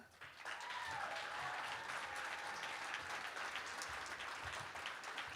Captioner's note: applause